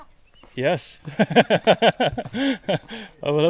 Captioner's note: laughter